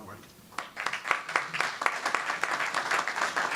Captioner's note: clapping